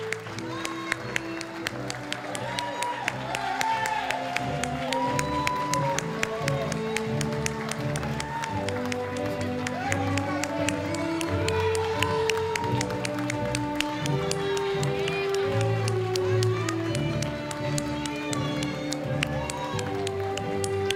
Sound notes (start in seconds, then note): 0.1 applause; 8.4 ceremonious orchestral music